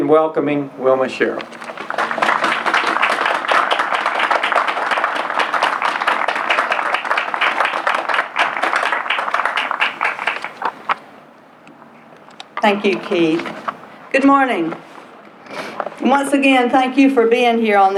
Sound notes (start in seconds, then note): 1.4 applause